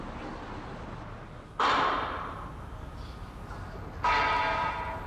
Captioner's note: city construction noises